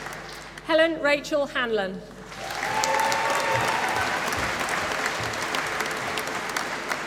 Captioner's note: applause